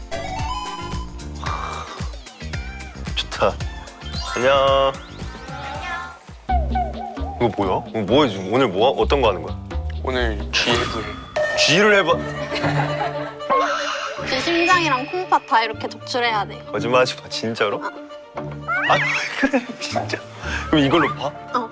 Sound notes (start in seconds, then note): 12.2 nervous laugh